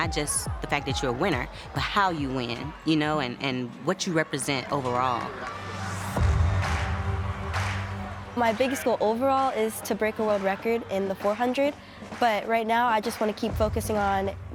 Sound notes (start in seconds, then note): 6.0 crowd cheering; 7.4 intense music